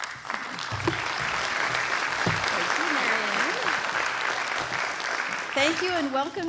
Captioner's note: applause